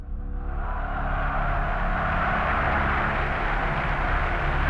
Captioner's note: crowd chanting in German